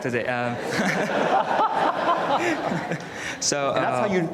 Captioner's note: audience laughs